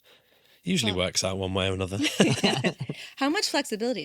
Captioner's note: laughing